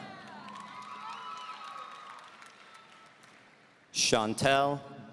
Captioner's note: audience cheering